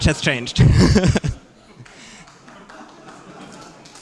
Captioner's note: laughter; applause